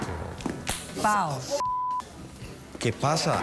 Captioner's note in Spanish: ruido bofetada